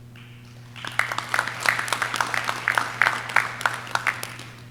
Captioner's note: audience clapping